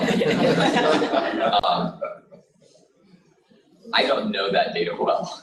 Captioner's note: laughter